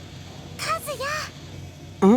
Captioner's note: hushed shouting